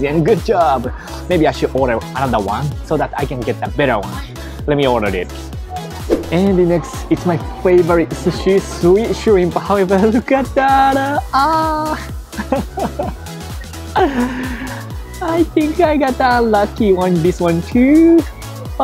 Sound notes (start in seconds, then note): 12.4 laughs